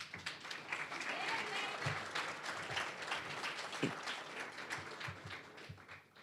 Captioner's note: applause